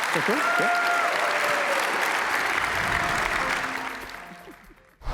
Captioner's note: cheers; applause